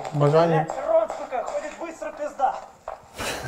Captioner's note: shout